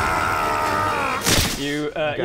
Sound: splat

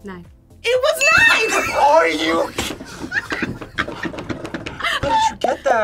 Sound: laughs

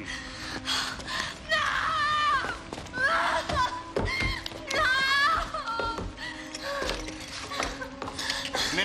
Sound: screaming

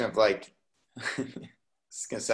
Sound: laughs

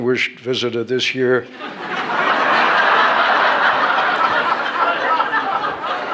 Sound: laughter

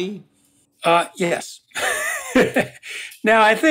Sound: laugh

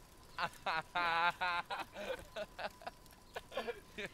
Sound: laughing

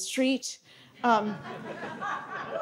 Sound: audience laughing

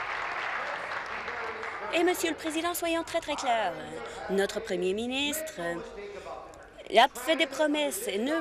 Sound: applause

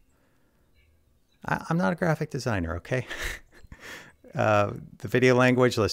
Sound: chuckling

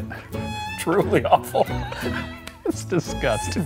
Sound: laughs

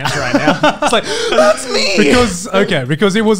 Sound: laughs

